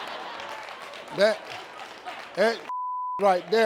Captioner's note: laughter